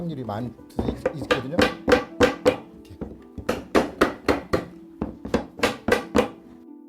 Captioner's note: hammering sounds